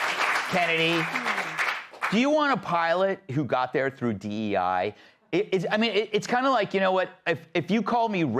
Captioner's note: applause